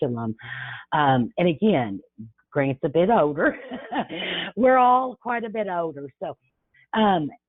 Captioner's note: chuckles